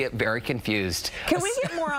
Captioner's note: laughter